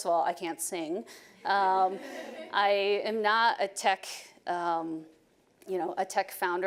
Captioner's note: audience laughing